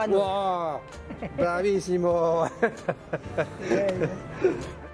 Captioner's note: laughs